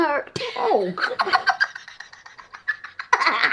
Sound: laughing

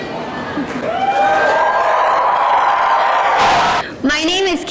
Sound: cheering

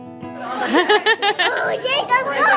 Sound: light guitar music; laughs

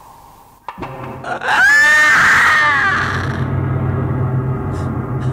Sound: screams sharply

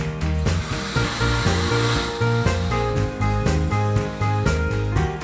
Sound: Laifen hair dryer whooshing; lively music

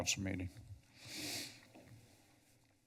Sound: sniffs

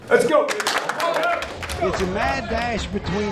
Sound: team cheering and clapping

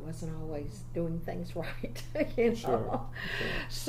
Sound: laughs

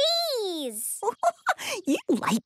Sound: giggling

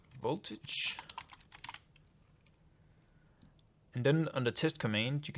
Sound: keyboard keys click

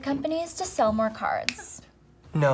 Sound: snap

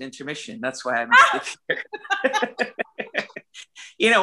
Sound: laughs

